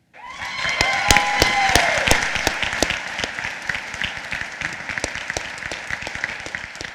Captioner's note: applause